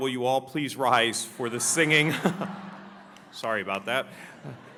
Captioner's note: audience laughs